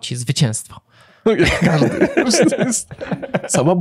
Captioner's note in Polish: śmiech